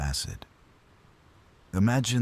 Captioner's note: wind Blowing